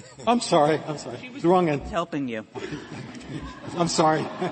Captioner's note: laughter; laughter